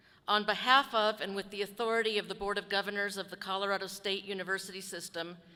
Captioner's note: none